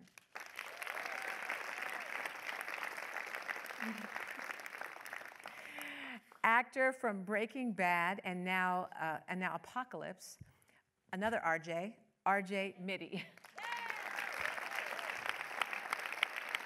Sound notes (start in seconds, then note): 0.1 audience applause; 13.4 audience applause